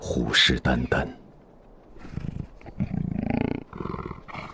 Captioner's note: growling